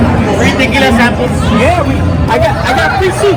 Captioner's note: speaking in foreign language